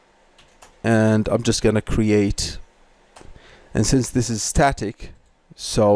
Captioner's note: static